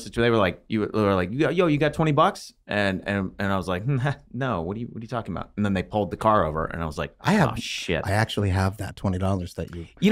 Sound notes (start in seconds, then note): none